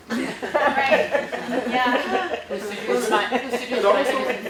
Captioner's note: laughs